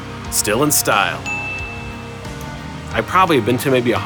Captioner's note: ding